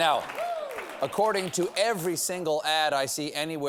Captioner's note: cheering